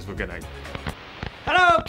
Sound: static

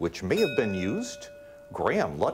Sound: bell ringing

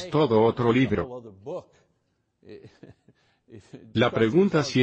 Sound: laughs

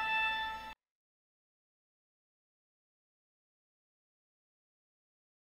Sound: silence

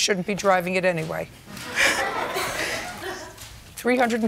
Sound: laughter

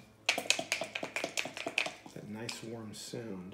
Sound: dice shaking

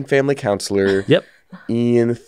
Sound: laughs

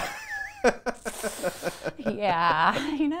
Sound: laughing

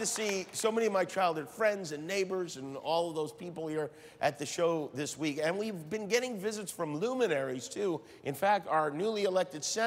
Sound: crowd reacts

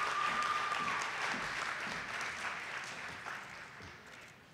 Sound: audience applauding

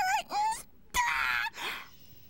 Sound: screams

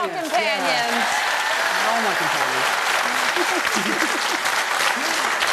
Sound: audience cheers and applauds

